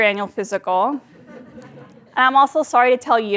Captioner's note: laugh